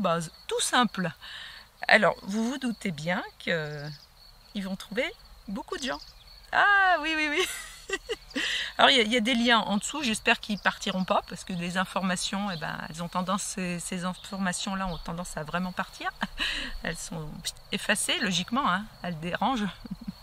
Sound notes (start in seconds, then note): 7.3 laugh